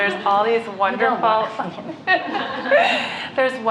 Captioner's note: laughter